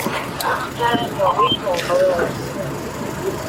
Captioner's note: radio chatter